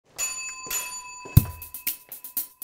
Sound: doorbell rings

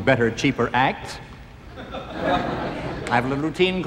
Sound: audience laughing

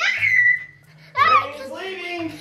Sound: screaming

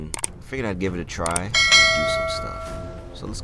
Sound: YouTube subscriber bells

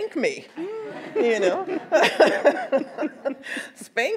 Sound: everyone laughs

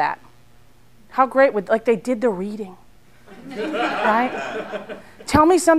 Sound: laughter

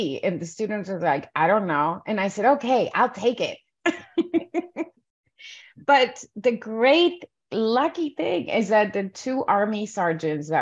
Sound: laughs

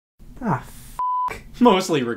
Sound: beep

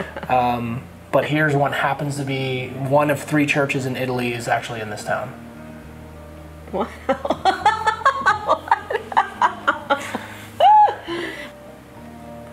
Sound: laughing

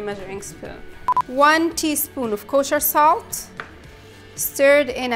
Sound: beeps

